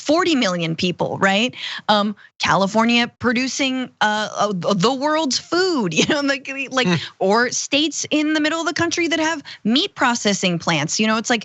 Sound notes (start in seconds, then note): 6.8 laugh